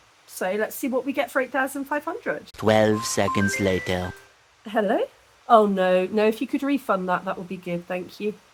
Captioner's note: phone rings